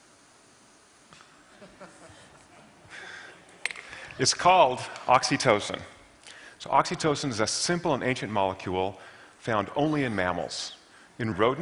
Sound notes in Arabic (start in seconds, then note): 1.6 ضحك